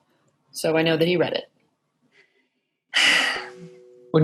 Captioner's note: sighs